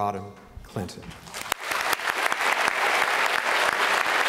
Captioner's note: applause